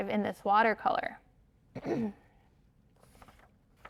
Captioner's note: clears throat